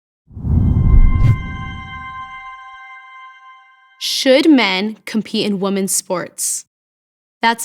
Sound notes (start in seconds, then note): 0.3 logo swooshing; 0.9 soft music